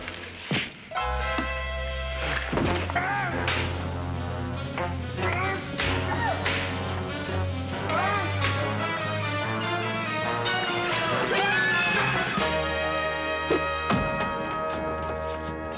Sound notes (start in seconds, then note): 0.0 thuds; 2.6 clanking; 2.9 tense music; 13.5 thuds